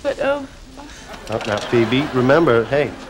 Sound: audience laughing

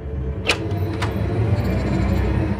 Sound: door creaks

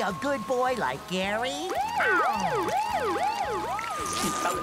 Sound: siren blaring

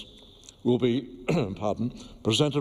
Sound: cough

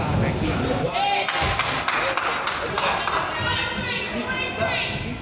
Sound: crowd applauds

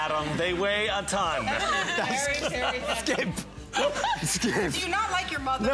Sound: laughter

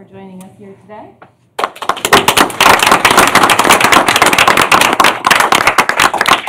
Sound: applause

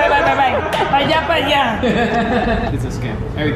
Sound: speaks in foreign language

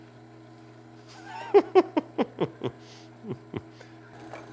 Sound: laughs

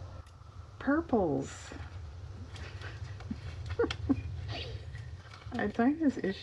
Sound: laughs

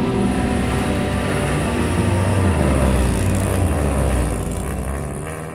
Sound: car engine roaring

